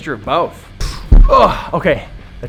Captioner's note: groans